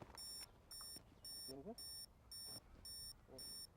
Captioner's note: timer beeping